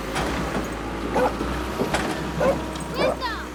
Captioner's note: dog barking